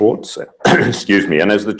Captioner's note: cough